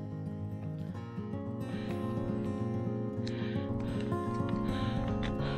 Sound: breathing heavily

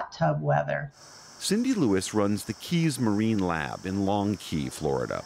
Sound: voice-over

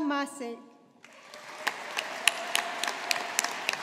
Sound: audience applauding

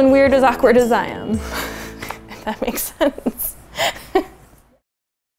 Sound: laughs

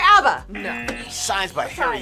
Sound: buzzer rings; buzzer

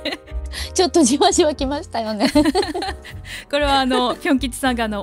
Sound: laughs; laughs

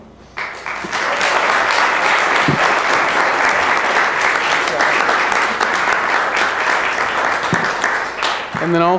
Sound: applause

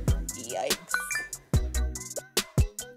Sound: phone beep

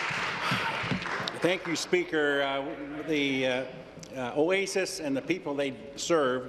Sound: applause

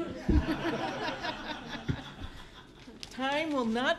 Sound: laughter

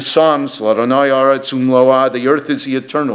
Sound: speaks in foreign language

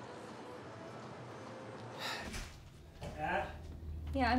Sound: sighs

